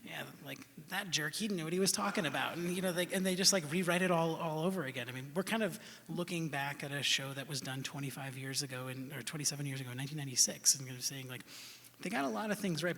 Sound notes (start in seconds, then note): none